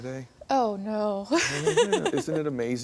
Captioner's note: laughs